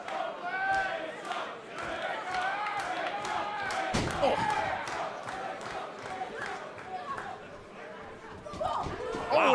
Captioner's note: fans chanting